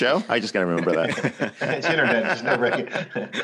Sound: laughter

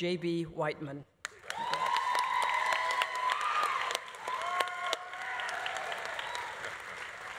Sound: audience applauding; audience cheering

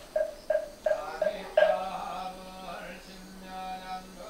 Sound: chanting

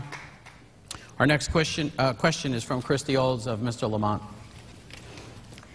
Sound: applause

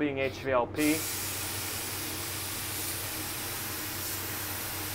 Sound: paint spraying

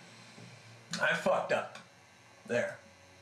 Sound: none

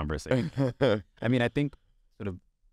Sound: Sasha laughs

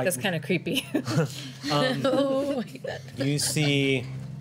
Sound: laughter

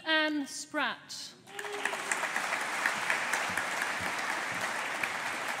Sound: audience applauding

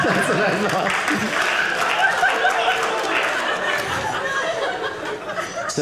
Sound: audience applauding

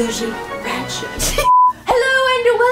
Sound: beeps

